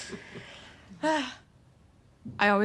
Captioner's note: relieved sigh